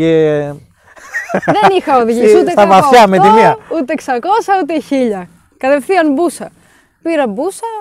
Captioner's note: chuckles